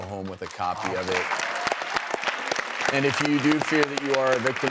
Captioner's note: audience applauds